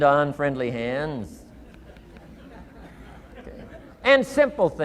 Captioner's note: audience chuckling